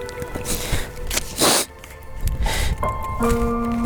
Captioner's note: sniffs; gentle piano music